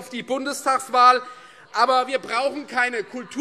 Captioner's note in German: Zurufe SPD